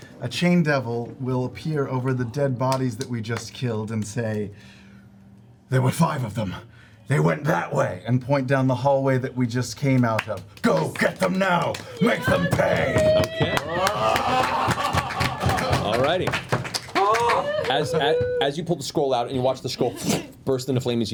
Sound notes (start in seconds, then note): 13.1 cheering